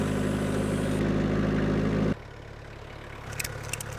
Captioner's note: engine rumbles